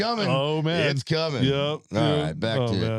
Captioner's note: laughing